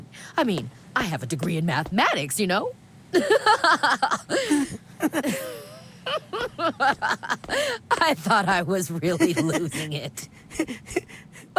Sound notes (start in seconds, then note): 2.9 laughs